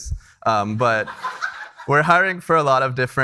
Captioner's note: attendees laughing